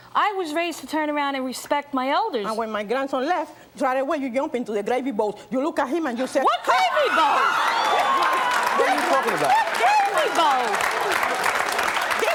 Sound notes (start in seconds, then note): 8.5 audience laughing; 12.1 audience applause